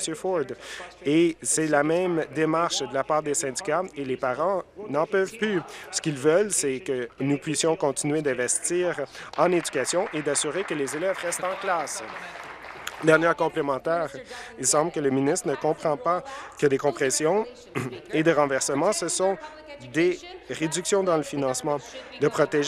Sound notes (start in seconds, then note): 12.7 applause